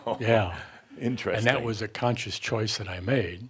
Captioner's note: chuckles